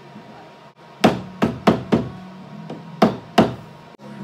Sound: hammer banging

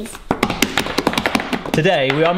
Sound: hands drumming

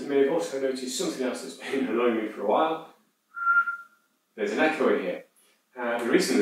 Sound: whistles

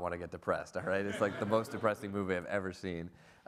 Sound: audience laughs

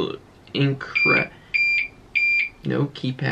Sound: IV pump beeping

